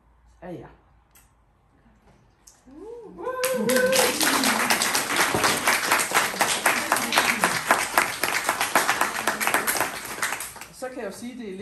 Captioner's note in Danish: Hujen og klapsalver fra de fremmødte